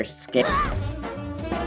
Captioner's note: screams